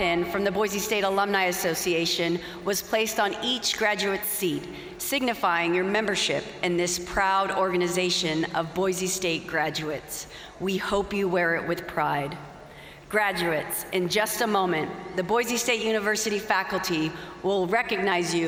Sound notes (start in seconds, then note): none